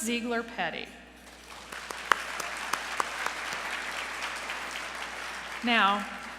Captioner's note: applause